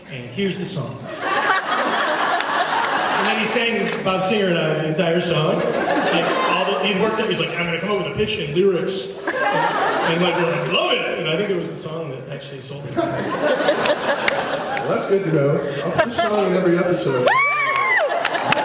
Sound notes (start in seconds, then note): 1.2 laughs; 13.0 laughs; 17.0 cheers